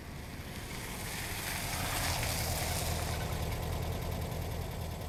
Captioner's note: car engine whirring